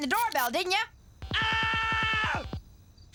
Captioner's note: man yelling